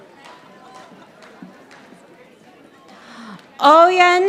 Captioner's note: audience applauding